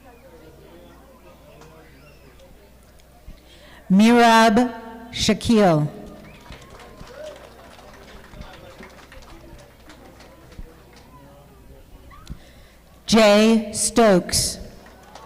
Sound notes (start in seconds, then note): 6.0 audience clapping